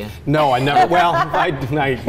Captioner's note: laughing